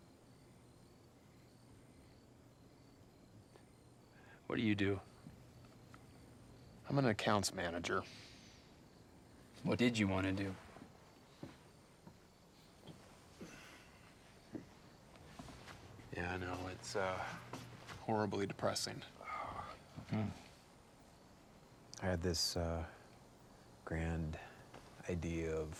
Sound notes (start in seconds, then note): 0.1 crickets chirping; 11.0 crickets chirping; 13.4 Tyler grunts; 14.2 crickets chirping; 19.2 sighs